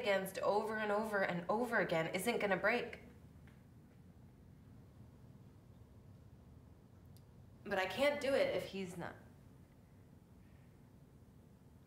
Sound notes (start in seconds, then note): none